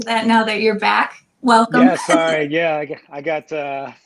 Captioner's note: laughing